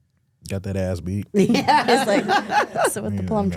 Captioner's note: laughs